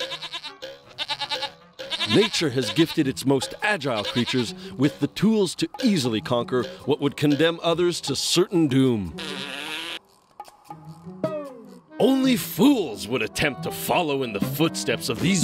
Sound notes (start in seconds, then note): 0.0 bleating; 9.1 blows raspberry